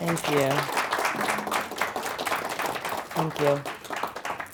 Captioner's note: audience applauding